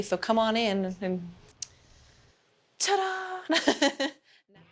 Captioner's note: laughs